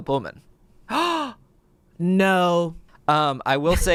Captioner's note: gasps